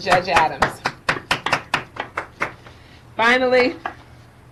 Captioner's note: applauding